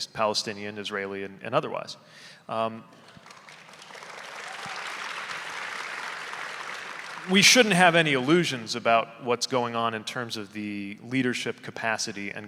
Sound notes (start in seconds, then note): 2.9 audience applauding